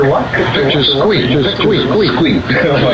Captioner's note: all laughing